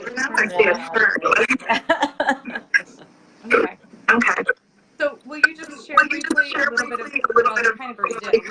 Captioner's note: laughing